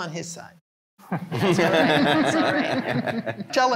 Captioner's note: all laughing